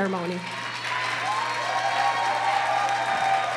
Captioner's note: applause